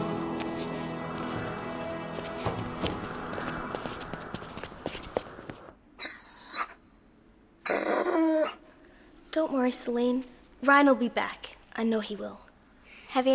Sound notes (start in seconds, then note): 7.6 dog whimpers